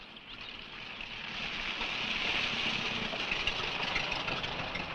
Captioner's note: engine rumbling